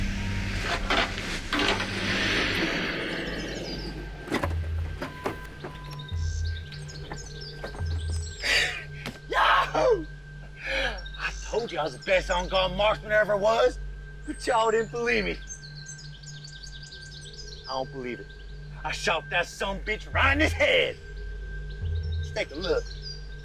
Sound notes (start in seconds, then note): 3.8 truck beeps; 9.2 Larry cheers; 23.2 slow music